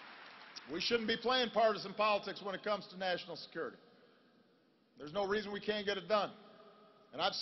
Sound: applause

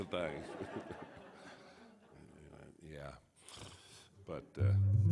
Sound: audience laughs

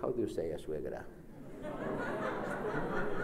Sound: speaks Spanish; laughs; speaks Spanish

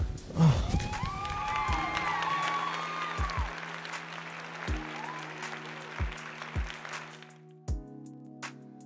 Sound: applause

